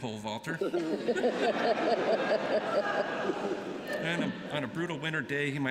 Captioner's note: laughter